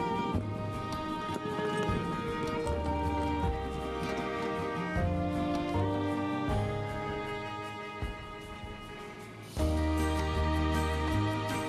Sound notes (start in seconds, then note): 3.5 suitcase wheels rolling